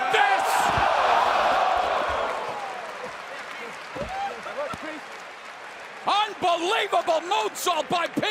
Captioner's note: crowd cheering